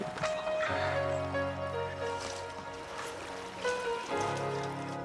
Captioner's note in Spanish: Susurra